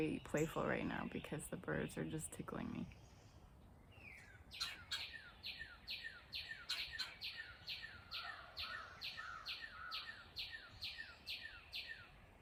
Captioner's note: birds chirping